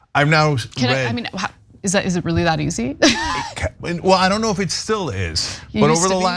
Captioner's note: laugh